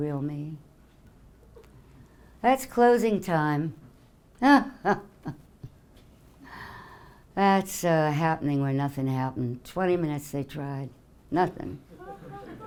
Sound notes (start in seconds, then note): 4.4 laughing; 11.9 audience laughing